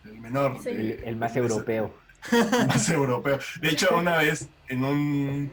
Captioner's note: laughs